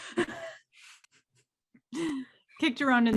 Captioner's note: chuckles